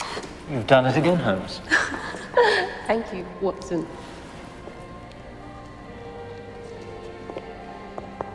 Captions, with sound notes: - You've done it again, Holmes. - (laughs) Thank you, Watson.